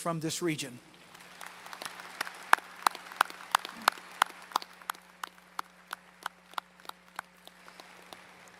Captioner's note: applause